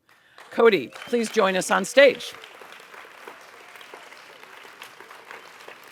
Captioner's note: audience applauds